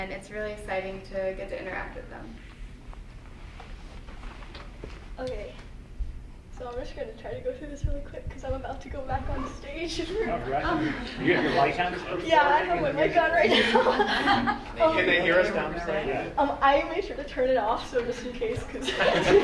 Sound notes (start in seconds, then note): 13.4 laughter